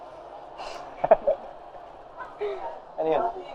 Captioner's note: laughs